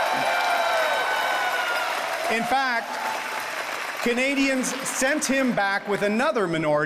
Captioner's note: audience cheers